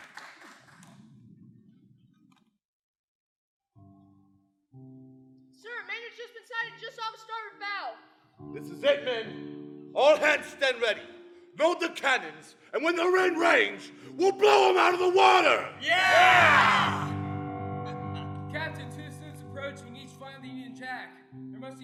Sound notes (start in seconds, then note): 3.9 ominous piano music; 15.8 pirates cheer